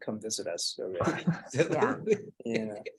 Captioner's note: laughs